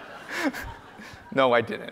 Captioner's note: audience laughs